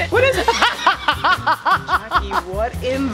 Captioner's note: laughs